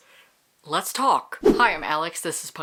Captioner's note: whoosh